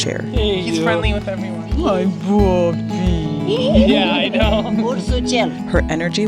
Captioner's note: laughing